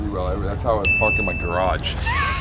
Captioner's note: bell dinging; laughing